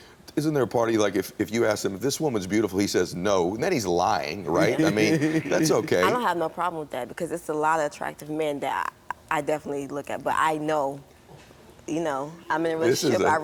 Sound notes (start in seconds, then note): 4.6 laughs